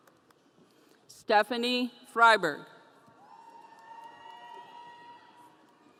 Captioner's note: audience cheering